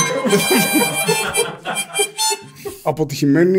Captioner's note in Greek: γέλια